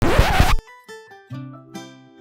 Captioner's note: record scratching; gentle bright music